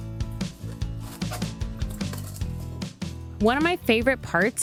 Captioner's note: gentle upbeat music; plastic rustling